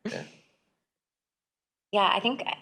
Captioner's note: people laughing